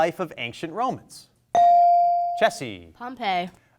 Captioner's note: bell rings